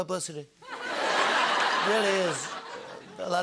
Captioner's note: laughter